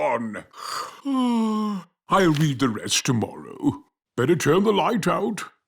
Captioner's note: yawns